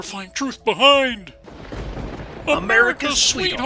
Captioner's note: thunderclap